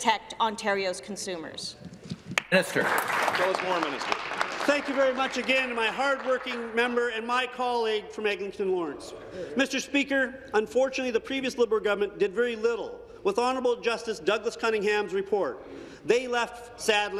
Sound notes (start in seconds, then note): 6.0 applause